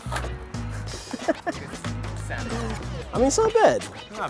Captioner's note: laughing